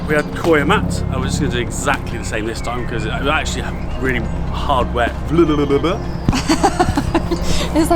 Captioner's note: stumbles over words; laughing